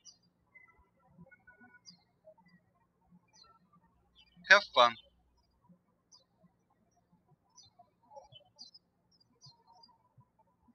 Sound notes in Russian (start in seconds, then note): 5.9 птички щебечут